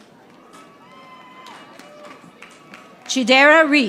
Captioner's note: audience applauding